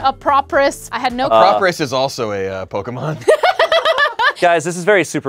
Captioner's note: laughing